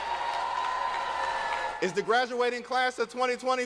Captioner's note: cheers and applause